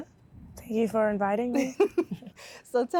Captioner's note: laugh